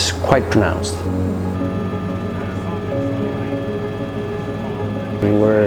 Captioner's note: helicopter whirring